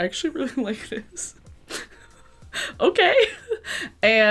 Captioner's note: laughing